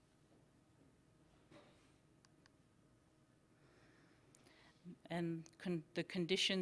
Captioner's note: silence